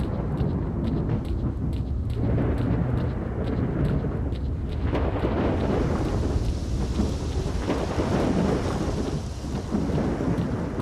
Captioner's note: sounds of thunder, wind, leaves rustling